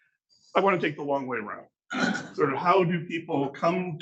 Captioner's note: clears throat